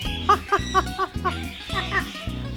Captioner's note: parrot chirps twice